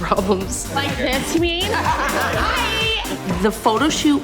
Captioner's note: laughter